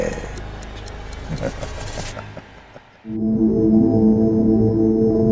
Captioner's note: ominous laughter